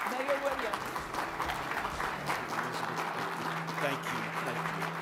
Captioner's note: audience applauding